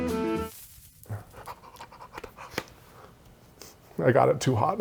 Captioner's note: jaunty music; plastic hissing; hyperventilating